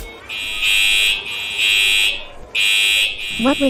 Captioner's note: fire Alarms Going off